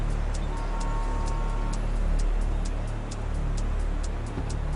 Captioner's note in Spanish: Ruido de tráfico vehicular